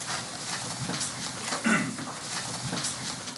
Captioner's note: clears throat